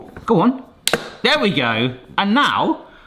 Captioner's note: clicks